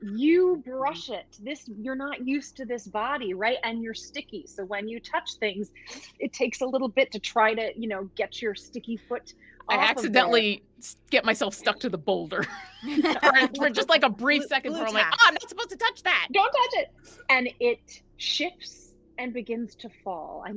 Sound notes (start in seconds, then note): 12.4 laughs